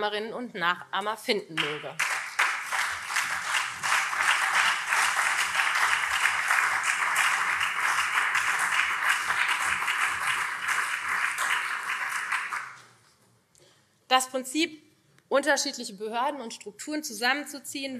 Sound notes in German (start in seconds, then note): 4.3 Beifall SPD und CDU